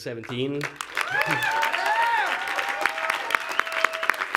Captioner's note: clapping